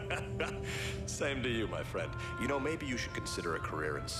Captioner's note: laughing